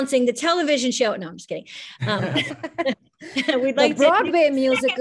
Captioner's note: chuckles